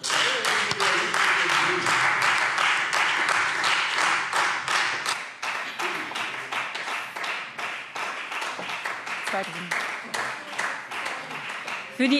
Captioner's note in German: Beifall Freie Demokraten